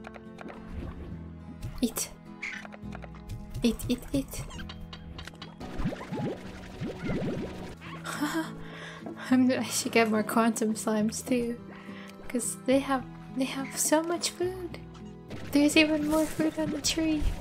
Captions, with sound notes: Eat Eat, eat, eat (laughter) Imma-- I should get more quantum slimes too Cause they have, they have so much food! There's even more food on the tree!